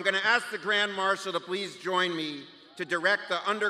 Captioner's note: cheers